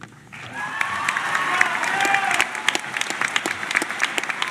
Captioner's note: cheering and clapping